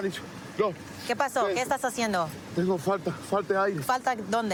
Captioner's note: speaking spanish